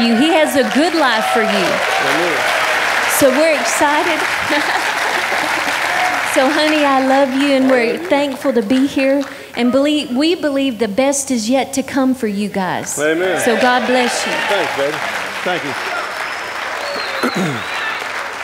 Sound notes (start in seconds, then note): 2.1 audience applauding